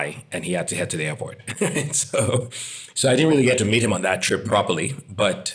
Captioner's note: laugh